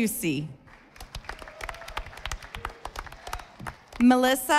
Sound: audience applauding

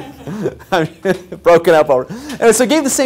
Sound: laugh

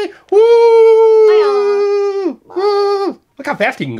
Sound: playful wooing

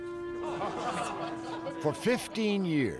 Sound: laughter

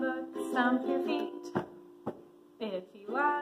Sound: stomping

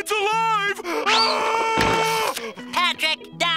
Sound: screams

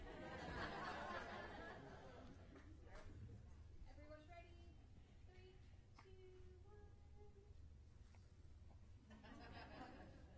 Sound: applause

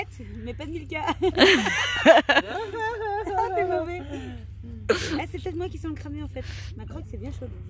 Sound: laughs

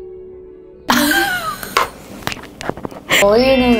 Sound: laughing

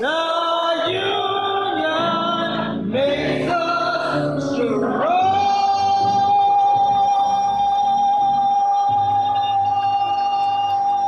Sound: cheers and clapping

